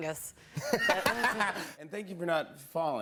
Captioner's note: laughter